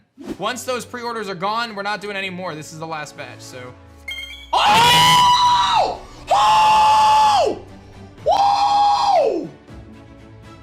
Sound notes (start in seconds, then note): 4.1 screams